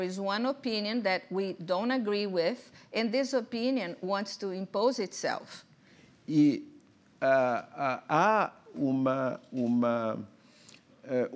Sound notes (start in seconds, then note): 7.5 speaking portuguese